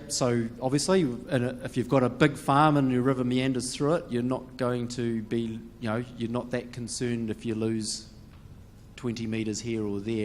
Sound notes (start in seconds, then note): none